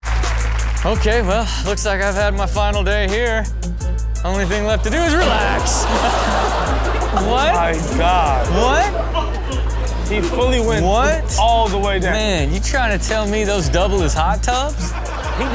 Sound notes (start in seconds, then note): 0.0 audience applauds; 5.5 water splashing; 6.2 audience laughing